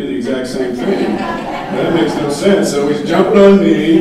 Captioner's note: audience laughing